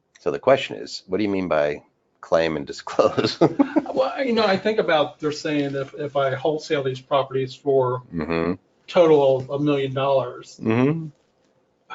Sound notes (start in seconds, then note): 2.9 laughs